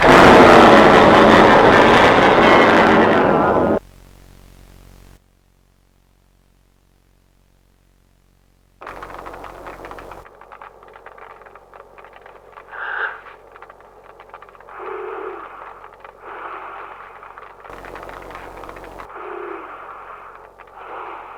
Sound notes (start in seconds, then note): 0.0 creature roaring; 8.8 flames crackling; 12.8 FRIES gasps; 14.7 FRIES breathing raggedly in multilayered voice